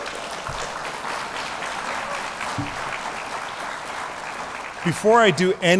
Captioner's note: applause